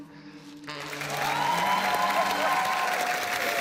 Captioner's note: cheering, applause